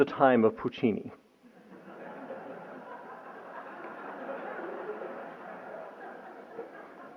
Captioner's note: laughter